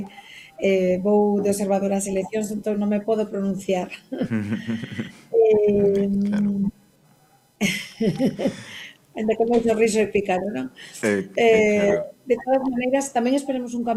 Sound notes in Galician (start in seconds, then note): 3.9 risas